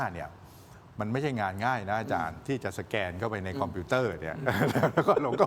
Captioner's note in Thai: เสียงหัวเราะ